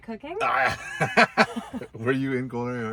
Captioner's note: both laughing